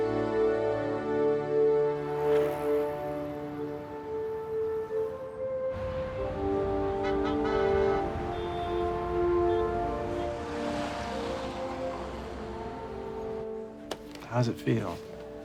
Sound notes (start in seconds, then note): 10.8 horns honking